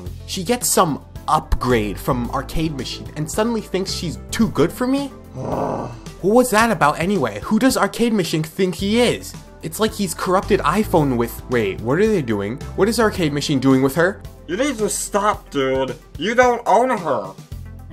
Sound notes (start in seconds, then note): 5.3 sighs heavily